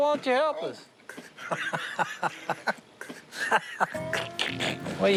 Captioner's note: laughing and snickering